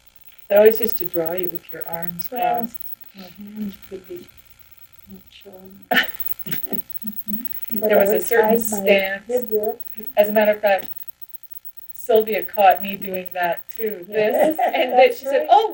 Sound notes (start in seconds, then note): 6.4 laughs